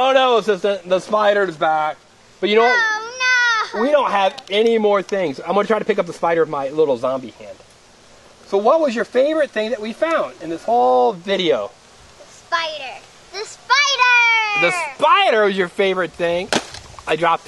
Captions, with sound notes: Oh, no, assistant, the spider's back. We don't have any more things. I'm gonna try to pick up the spider with my little zombie hand. What was your favorite thing that we found in this whole video? - [Voiceover] The spider, the spider! - [Voiceover] The spider, your favorite thing?